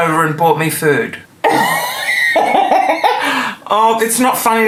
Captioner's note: laughing